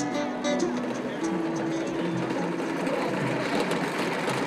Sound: wagons bouncing

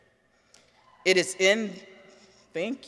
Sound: person cheers

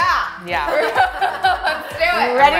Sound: all join in laughter

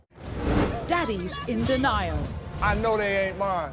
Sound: voiceover

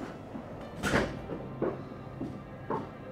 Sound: gentle music; door claps

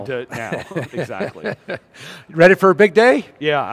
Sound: laughs

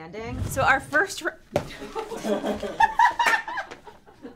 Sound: laughs

